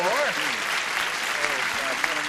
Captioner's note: applause